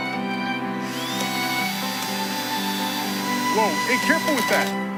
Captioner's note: drill buzzing